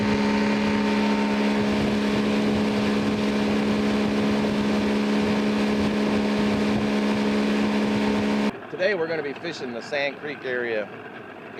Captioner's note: boat motor sound